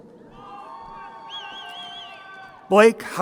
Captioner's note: crowd cheering